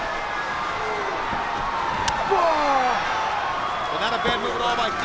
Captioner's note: spectators cheering